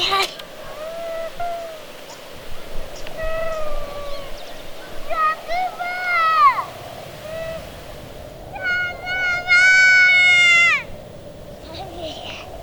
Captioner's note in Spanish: Llanto